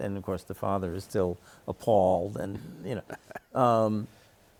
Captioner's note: chuckles